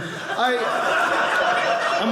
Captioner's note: audience laughing